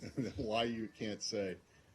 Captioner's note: laughter